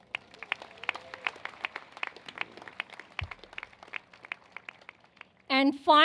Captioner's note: applause